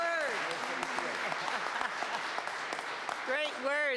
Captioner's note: applause